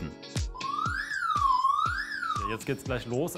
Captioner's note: beep